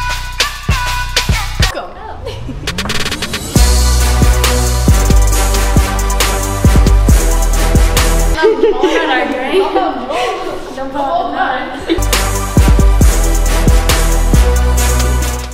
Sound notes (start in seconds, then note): 0.1 upbeat music; 8.4 laughing